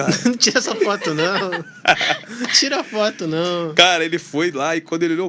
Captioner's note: risadas